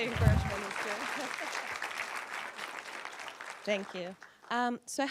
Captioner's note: applause